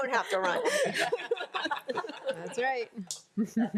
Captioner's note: board laughs